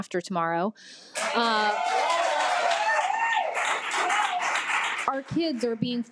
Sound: audience applause

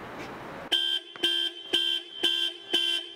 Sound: car alarm goes off

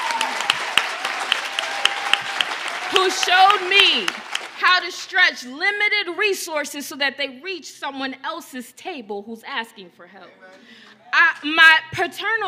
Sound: cheers and applause

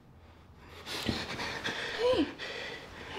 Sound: Adam panting

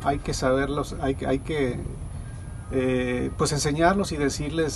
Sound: speaking Spanish

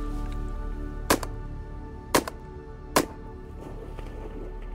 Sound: gunshots

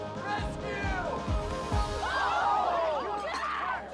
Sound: all exclaim

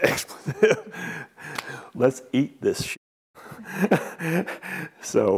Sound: laughs

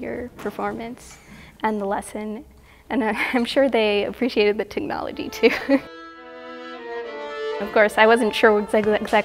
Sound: laughter

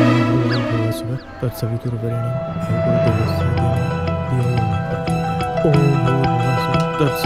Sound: chanting

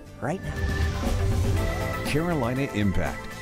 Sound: air rumbles

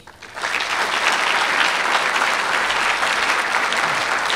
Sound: applause

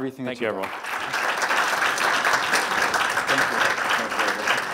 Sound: audience clapping

